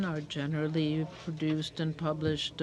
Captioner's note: speaking in french